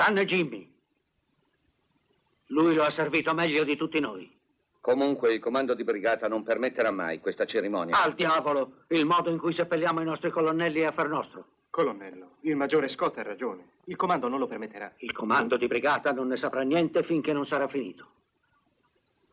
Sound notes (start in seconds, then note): none